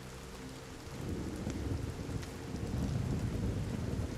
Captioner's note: thunder rumbles